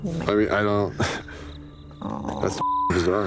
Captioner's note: sighs